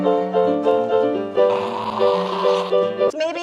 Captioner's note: guttural Scream